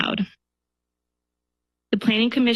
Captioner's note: pause